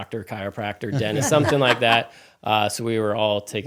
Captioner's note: laughing